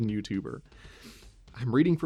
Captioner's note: exhale, inhale through nose